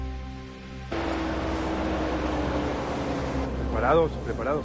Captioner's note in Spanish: Ruido del vehículo